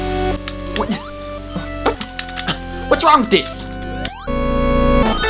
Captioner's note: tapping